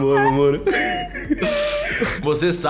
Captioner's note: laughs